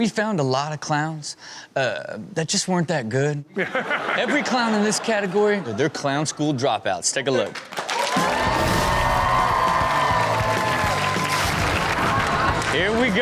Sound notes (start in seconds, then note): 3.6 all laugh; 7.6 audience cheer and applaud; 8.4 upbeat music